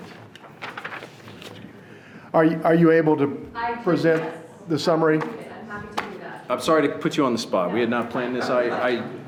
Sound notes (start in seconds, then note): 5.4 speaking off microphone